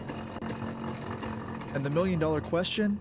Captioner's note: treadmill rumbling